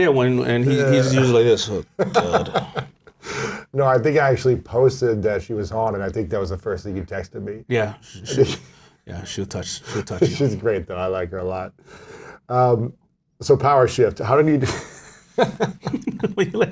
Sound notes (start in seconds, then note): 1.8 laughs; 14.7 laughs